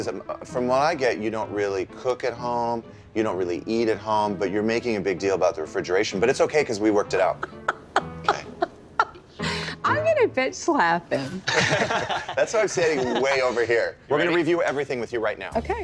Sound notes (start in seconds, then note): 7.1 laughs